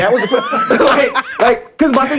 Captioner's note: laughing